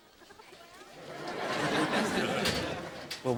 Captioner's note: audience laughter